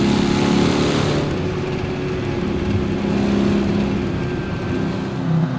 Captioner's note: engine humming continues